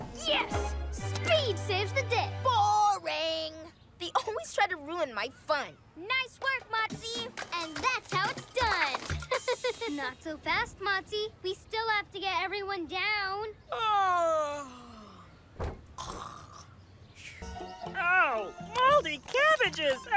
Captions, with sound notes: Yes! Speed saves the day. Boring! They always try to ruin my fun. Nice work, Motsie! And that's how it's done! (Giggles) Not so fast, Motsie. We still have to get everyone down. (Fake yawning) Oh, mouldy cabbages!